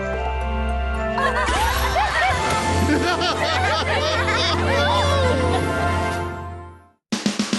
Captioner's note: laughter